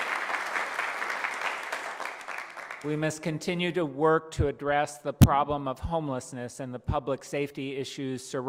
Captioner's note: applause